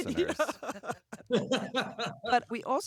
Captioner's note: laughter